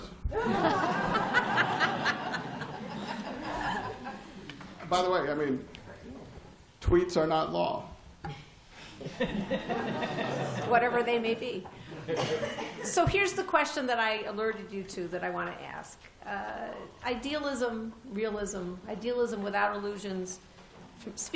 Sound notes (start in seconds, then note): 0.3 laughter; 9.0 laughter